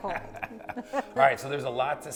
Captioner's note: both laughing